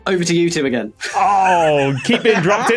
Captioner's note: wheezes